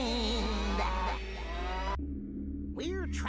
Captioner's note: cow mooing